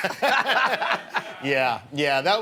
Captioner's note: laughter